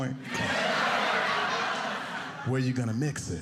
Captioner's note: audience laughing